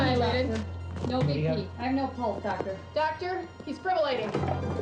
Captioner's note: pads rattling